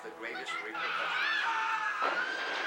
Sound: tires screeching; metal banging, glass breaking

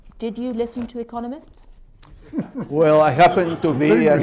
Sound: laughter

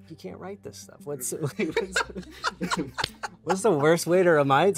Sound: laughs

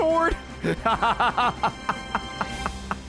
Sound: laughs

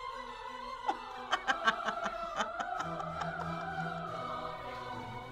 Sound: laughs

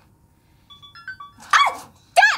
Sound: computer beeping

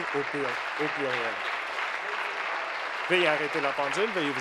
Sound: applause

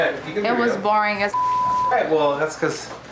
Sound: beep

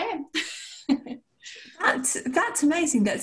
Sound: laughter

